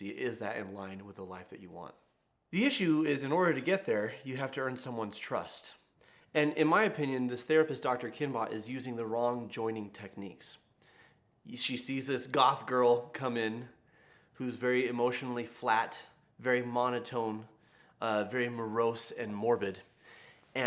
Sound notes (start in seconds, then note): none